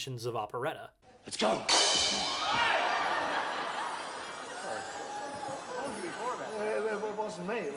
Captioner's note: slashes sword, hits a cymbal, audience reacts